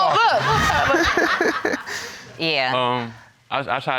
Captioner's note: everybody exclaiming